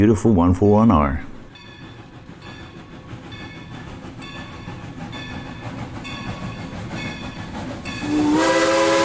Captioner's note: train sounds